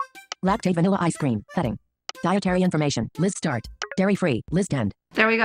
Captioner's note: artificial female voice